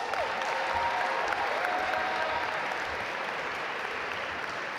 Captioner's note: audience applaud